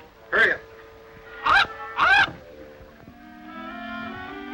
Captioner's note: Sinbad shrieks